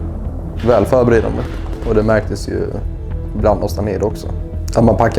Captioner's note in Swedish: Swedish